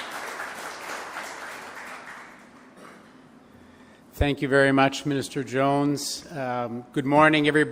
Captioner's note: applause